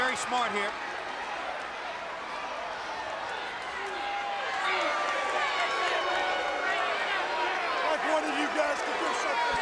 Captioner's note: crowd chatter